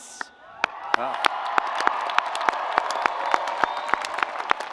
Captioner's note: audience applauds